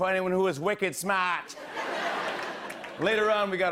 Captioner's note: laughter